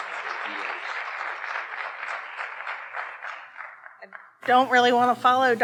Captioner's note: audience applauding